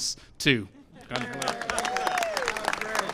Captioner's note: applause